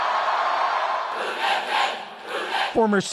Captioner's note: cheering and applause